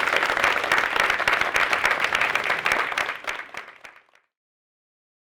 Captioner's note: clapping